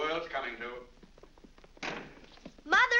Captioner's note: feet pattering down stairs; door slams